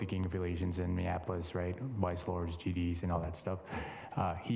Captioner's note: none